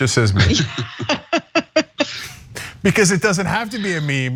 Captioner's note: laugh